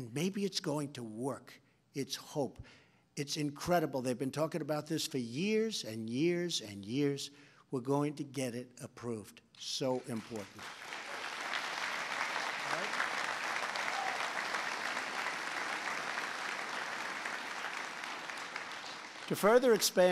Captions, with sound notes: And maybe it’s going to work. It’s hope. It’s incredible; they’ve been talking about this for years and years and years. We’re going to get it approved. So important. All right? (Applause.) To further expand treatment,